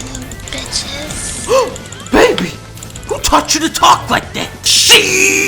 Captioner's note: gasp